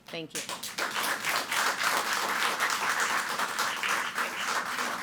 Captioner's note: people clapping